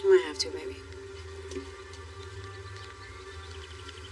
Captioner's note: birdsong